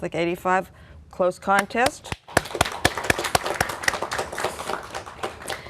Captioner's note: applause